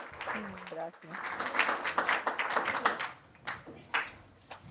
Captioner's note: applause